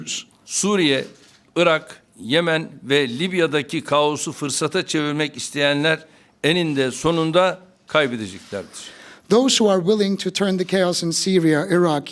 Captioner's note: speaking Turkish